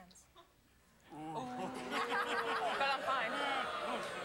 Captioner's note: audience oohs